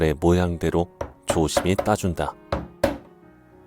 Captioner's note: hammering sound